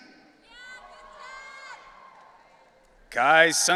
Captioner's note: audience cheering